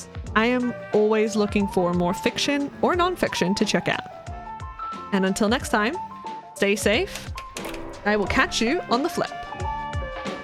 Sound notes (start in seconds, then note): 6.6 projector slide retracts